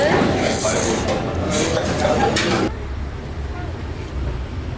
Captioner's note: slurp